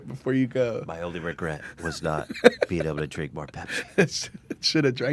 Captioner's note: dreamily; laughs